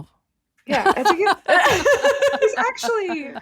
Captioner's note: laughing